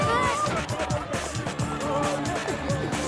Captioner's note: screams